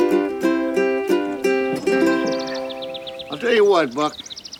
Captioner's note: birds chirping